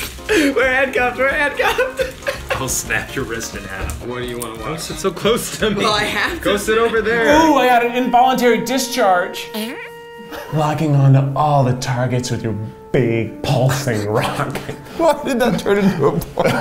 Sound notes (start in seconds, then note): 1.6 laughing; 9.5 fart sound; 10.2 laughs; 14.0 laughing